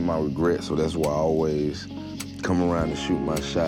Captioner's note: crickets chirping